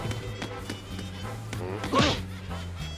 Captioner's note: grunts